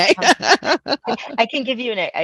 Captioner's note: laughs